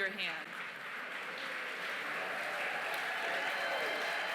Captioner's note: cheering, applause